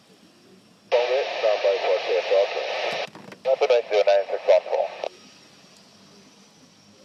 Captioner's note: aircraft